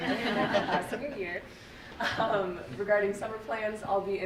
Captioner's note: group laughing